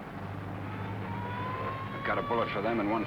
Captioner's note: siren blaring